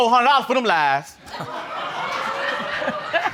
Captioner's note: audience laughing